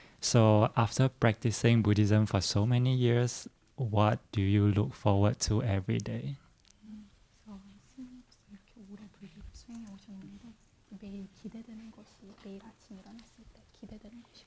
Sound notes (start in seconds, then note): 8.3 translator speaking in Korean